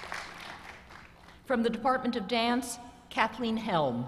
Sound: applause

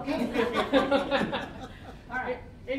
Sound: all laughing

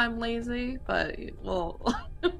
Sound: laughs

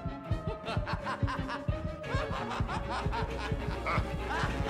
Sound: maniacal laughter; worried laughter

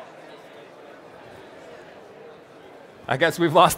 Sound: attendees chattering

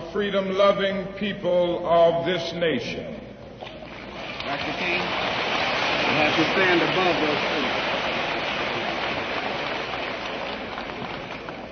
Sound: applause

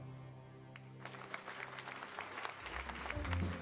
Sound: audience applauding; upbeat jazz music

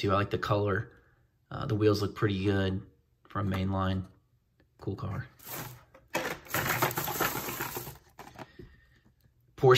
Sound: bag crinkles

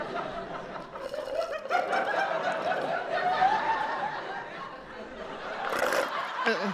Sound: slurping

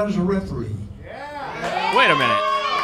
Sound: crowd cheering

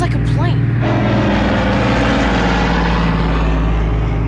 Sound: plane whooshing

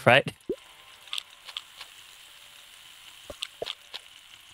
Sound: crunching

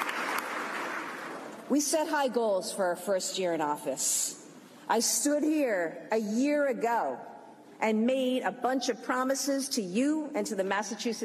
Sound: applause

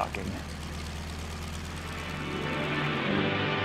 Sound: airplane motor starting

